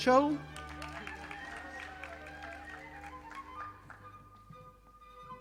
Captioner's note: audience applauding